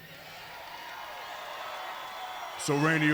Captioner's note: audience cheers